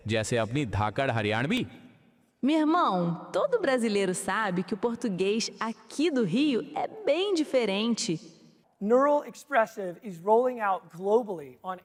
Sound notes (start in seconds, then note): 2.7 automated female voice speaking foreign language